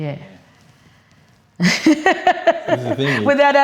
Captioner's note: laughs